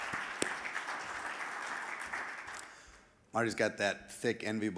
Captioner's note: audience applauding